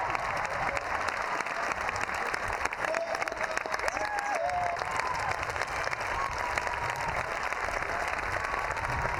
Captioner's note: cheers, clapping thoughout